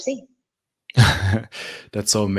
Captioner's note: chuckles